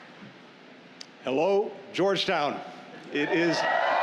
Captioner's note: cheers